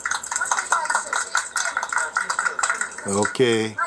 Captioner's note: clapping